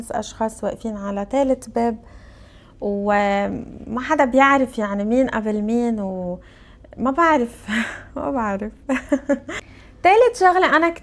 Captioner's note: laughs